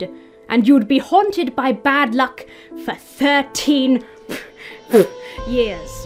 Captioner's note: blows at her mustache